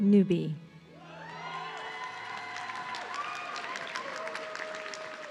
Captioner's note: audience cheering